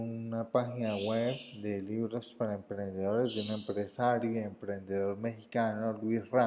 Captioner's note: in Spanish